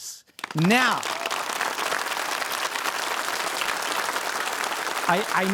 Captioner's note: audience applauding